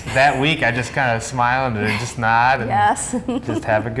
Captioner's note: laughing